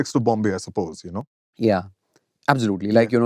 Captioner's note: none